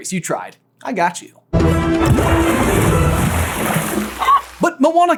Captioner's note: dramatic music; splash